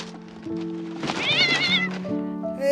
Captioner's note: cat meowing